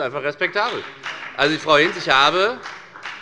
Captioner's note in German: Beifall bei der FDP